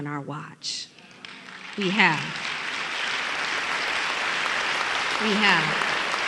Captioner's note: applause